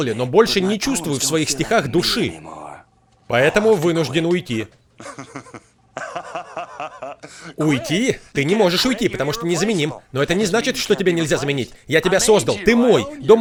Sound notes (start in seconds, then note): 4.4 <i>laughing</i>